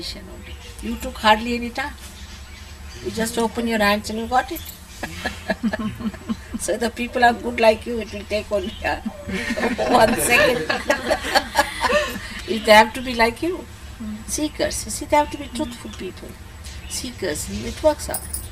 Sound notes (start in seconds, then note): 5.0 shree mataji laughs; 10.3 shree mataji laughs